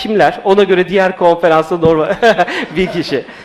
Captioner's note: laughs